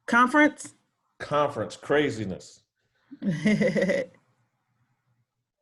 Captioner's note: laughs